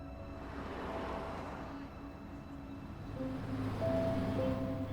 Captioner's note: traffic whooshing